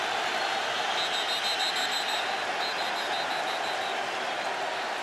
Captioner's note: whistles